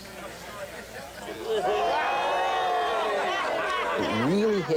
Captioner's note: cheering